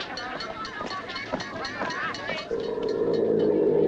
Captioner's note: snarling